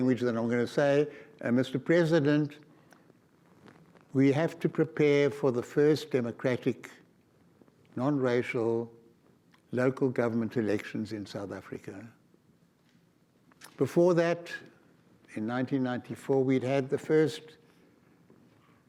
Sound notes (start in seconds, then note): none